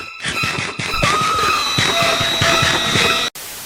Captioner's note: scream; static